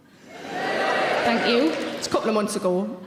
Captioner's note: audience cheering